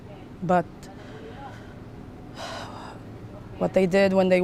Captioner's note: sighing